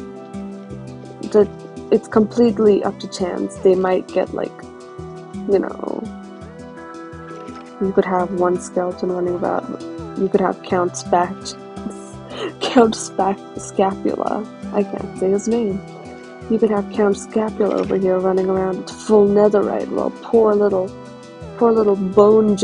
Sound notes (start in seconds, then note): 12.3 laughs